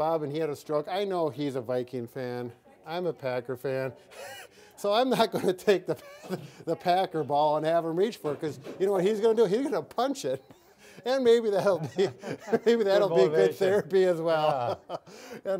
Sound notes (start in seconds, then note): 5.9 laughing